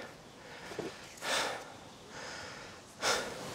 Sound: he breathes heavily

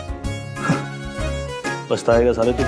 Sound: snickers

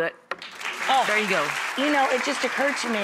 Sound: audience applause

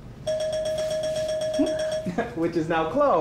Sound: bell dings

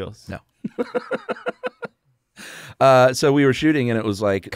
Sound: laughs

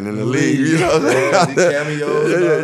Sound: laughing

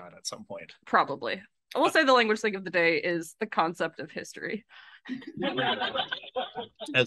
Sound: laughs

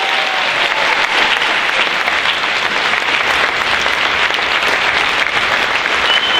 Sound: loud applause

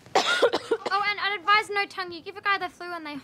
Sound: coughs

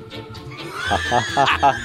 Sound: laughs

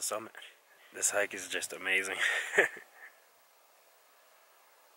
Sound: laughs

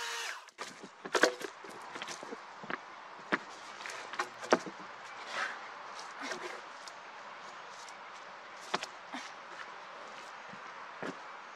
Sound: chainsaw running; wood cracking, footsteps

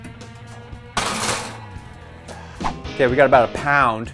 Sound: metal clanging

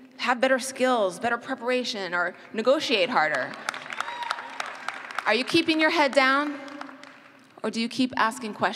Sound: cheers

